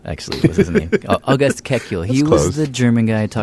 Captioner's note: laughs